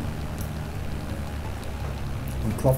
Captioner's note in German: Propellergeräusche, drängende Musik